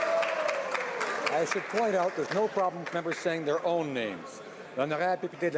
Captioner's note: some Applause